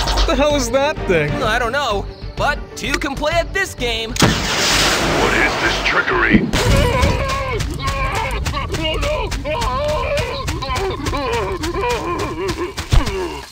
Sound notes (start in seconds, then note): 4.2 bomb blasts; 6.8 screams; 9.7 Master Chief screams